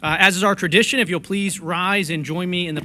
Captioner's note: gavel pounded